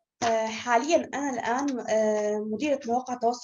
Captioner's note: non-english speech